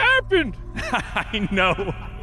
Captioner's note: laughing